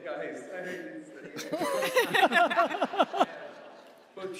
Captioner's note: laughter